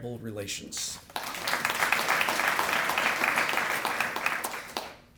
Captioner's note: applause